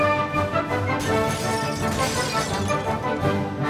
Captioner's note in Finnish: Lasi rikkoutuu